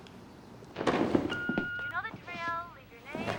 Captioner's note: beeping; on phone